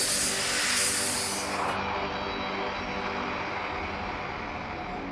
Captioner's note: machine grinding